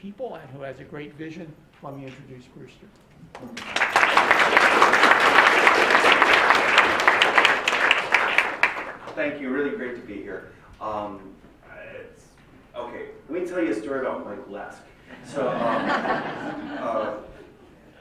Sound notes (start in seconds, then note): 7.9 applause; 15.1 laughter